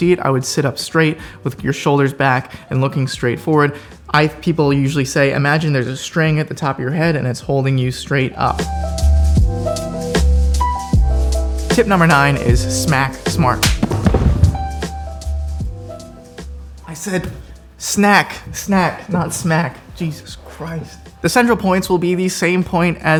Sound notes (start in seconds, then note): 9.7 chill jazzy music; 13.5 hand smacks